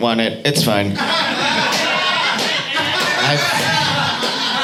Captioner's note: audience laughing